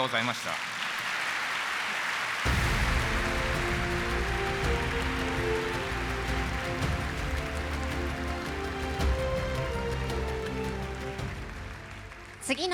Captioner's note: applause